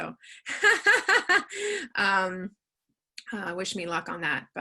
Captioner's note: laughs loudly